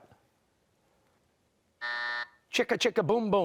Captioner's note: buzzer